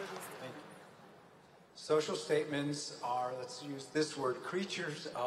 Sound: applause

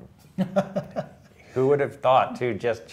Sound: laughter

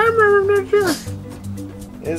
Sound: sneeze

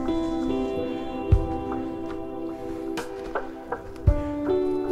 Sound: breathing heavily

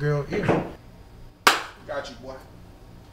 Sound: hands clapping

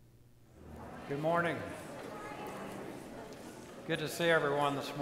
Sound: congregation chattering

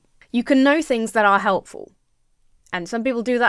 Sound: none

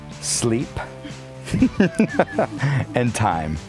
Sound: laughing

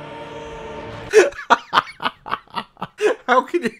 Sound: laughing

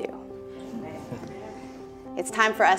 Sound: audience murmurs

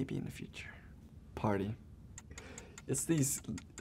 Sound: timer ticking

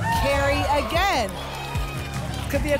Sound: applause and cheering

